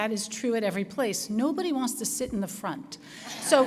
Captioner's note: laughter